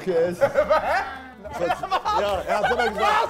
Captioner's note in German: Lachen